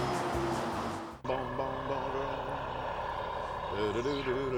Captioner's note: humming